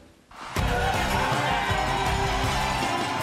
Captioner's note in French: acclamations